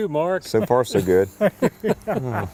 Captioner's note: laughter